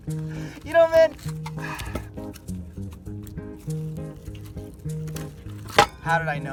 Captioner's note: sighs